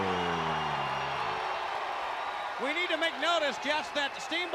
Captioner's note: crowd cheering